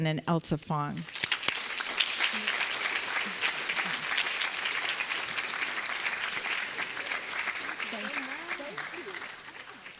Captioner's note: applause